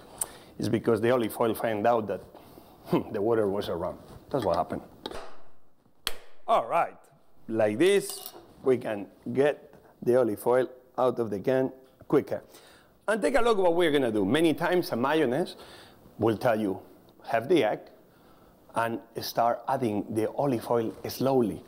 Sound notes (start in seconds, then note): 5.4 claps